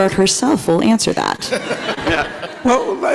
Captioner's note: everybody laughs